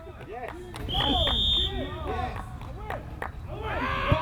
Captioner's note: whistle